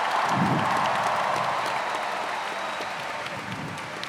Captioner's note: cheers and applause